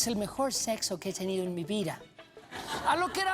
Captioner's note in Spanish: risas